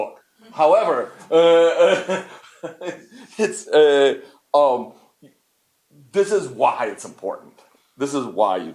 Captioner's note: laughs